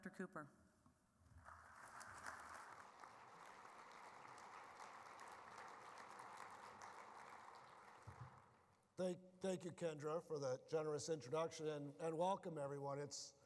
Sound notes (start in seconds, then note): 1.4 applause